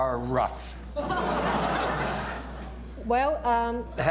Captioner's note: laughter